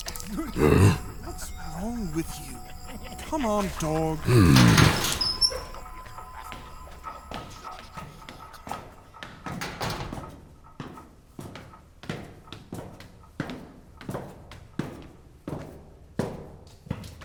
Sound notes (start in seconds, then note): 0.5 grunting; 4.4 Loam grunts submissively. A heavy metal door opens; 7.6 The Rau cackle in the distance; 11.4 A pair of footsteps lead up a secret stairwell